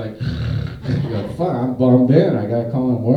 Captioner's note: man snoring